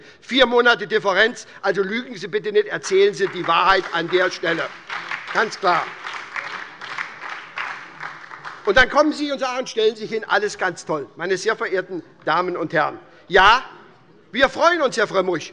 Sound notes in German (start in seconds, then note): 4.9 Beifall bei der SPD und der LINKEN